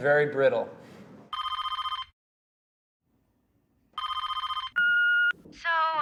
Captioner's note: phone rings